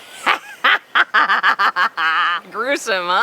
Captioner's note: laughing